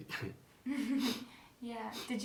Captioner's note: laughs